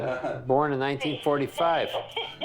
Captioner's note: laughs